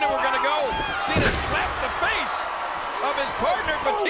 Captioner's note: body thudding